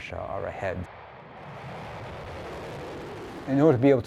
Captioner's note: rocket whooshing